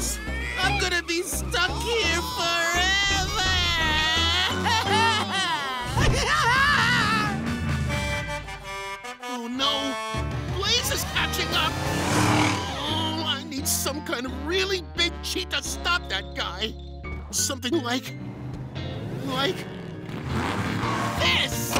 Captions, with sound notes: I'm gonna be stuck here forever! [laughing] [truck horn] Oh no, Blaze is catching up! Oh, I need some kind of really big cheat to stop that guy. Something like, like... this!